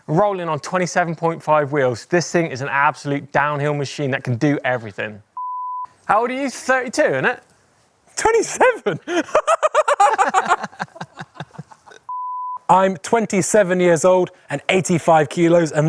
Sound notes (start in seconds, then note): 5.4 testcard beep; 8.4 both laugh; 12.1 testcard beep